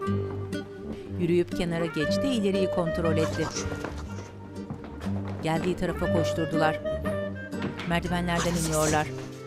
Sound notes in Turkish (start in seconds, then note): 4.7 Ayak sesi